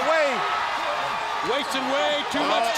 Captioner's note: crowd cheering